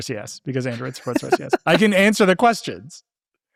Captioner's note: laughing